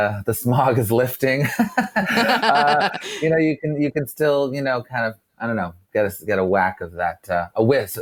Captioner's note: laughs